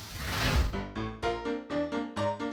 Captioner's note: fire whooshing; upbeat piano music